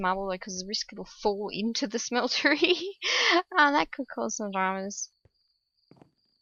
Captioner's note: laughs